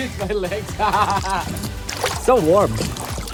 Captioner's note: laughing